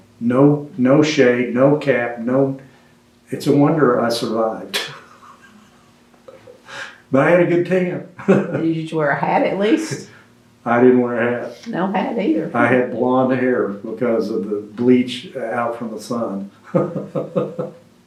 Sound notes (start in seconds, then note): 4.7 laughs